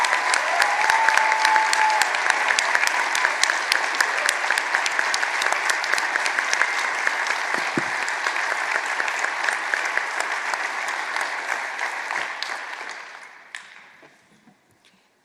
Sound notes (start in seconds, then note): 0.0 applause; 2.9 cheers and applause; 14.8 applause